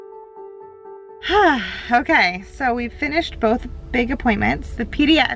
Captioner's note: sighs